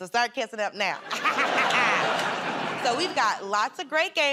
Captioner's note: laughter